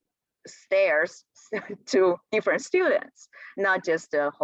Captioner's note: laughter